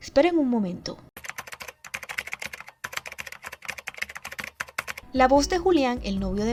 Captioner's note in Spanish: gato tecleando